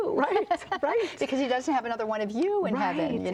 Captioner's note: laughs